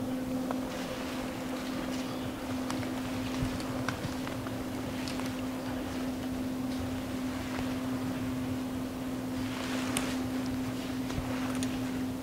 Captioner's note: footsteps heard in the leaves